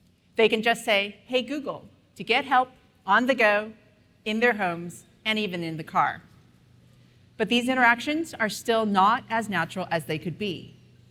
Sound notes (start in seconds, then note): none